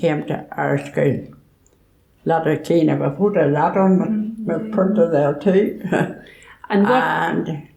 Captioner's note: laughs